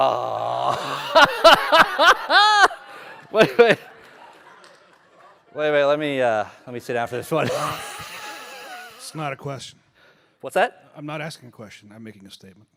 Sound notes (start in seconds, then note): 4.1 laughter